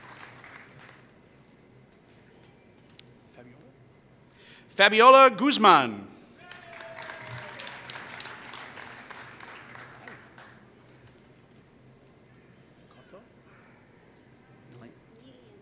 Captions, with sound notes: Fabiola Gosemon [Applause]